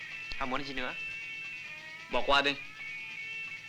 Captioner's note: Malay spoken audio